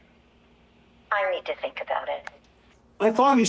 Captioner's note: on voice record